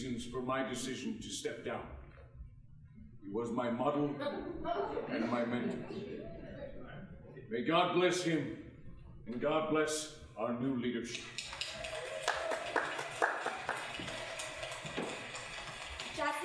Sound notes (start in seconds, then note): 4.1 audience chuckling; 11.3 applause